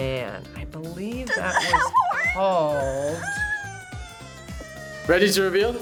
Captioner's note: whimpers